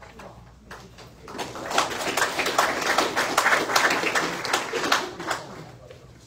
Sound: audience applauds

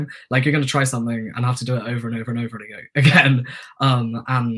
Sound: chuckles

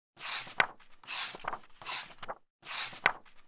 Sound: pages turning

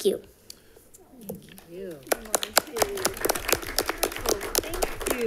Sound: crowd applauding

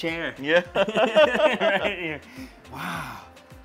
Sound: laughs

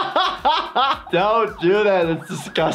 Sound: laughs; siren whoops

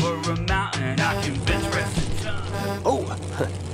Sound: horn honking

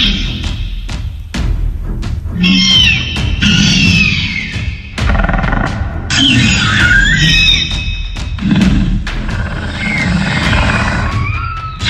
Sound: dramatic music; raptor screeching

